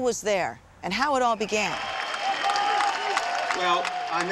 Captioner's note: applause